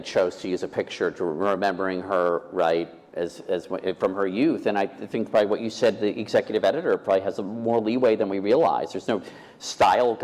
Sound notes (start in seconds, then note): none